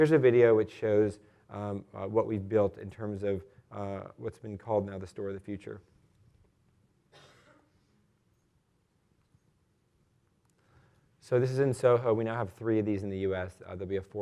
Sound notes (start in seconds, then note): 7.1 cough